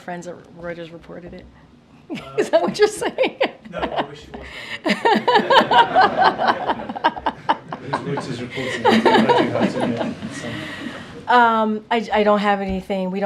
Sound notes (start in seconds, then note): 2.7 laughs; 5.1 laughter